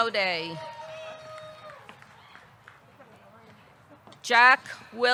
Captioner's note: audience cheering; audience clapping